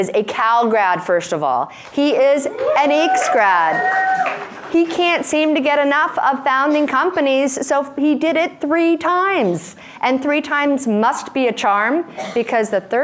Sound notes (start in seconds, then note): 2.2 cheering